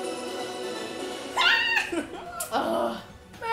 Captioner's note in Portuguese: ri e comemora